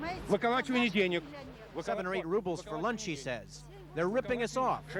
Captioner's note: speaking in Russian